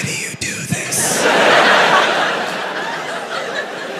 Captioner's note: crowd laughs